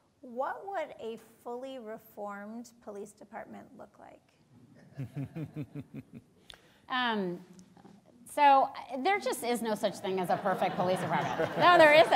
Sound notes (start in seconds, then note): 4.9 laughing